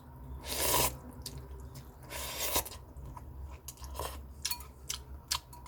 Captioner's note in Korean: 후루룩